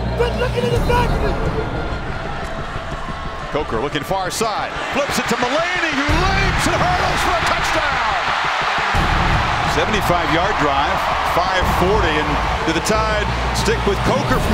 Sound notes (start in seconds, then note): 3.7 voiceover; 8.0 crowd cheers; 9.9 voiceover